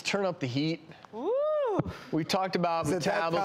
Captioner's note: whoops